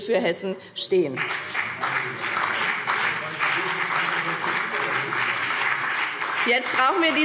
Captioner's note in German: Beifall BÜNDNIS 90/DIE GRÜNEN und vereinzelt CDU – Zuruf